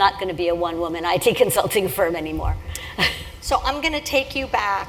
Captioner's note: laugh